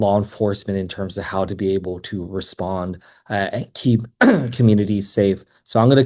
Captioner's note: clears throat